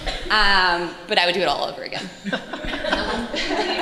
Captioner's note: audience Laughter